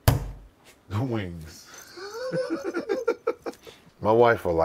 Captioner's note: laughing